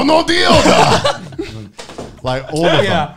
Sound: men laughing

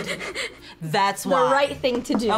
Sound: laughs

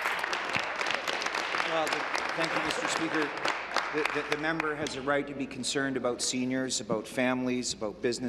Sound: applause

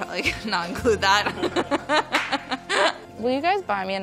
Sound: laughs

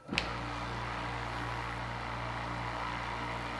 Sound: motor humming

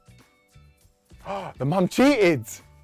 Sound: gasps

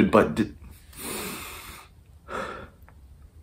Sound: breathes deeply

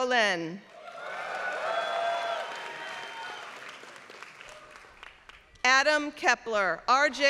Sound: applause

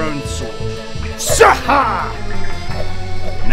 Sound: zzaarrhahrhgh!

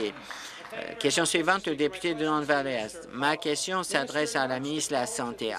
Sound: applause

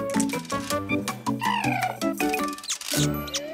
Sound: chirping

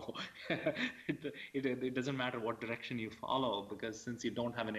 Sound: laughs

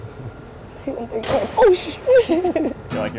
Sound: nervous laughter

